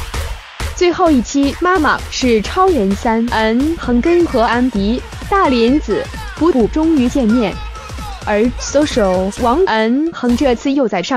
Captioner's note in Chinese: 笑～